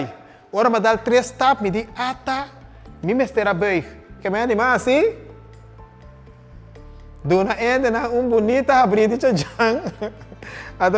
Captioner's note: laughter